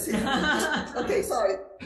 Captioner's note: attendees laughing